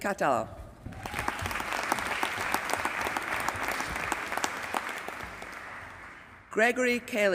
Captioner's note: applause